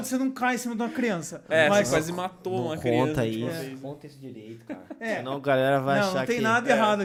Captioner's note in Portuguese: risos